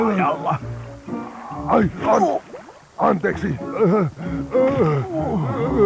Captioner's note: gasping